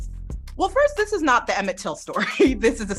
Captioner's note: chuckles